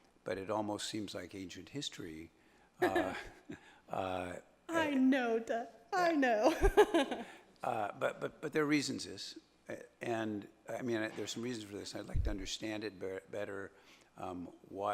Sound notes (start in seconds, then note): 2.8 laughs; 6.4 laughs